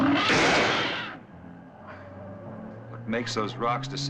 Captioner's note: growls; crackles